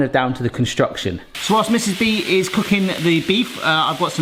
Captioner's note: meat sizzling